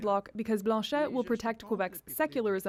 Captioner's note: speaking French